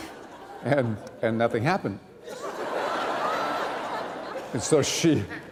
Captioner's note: laughter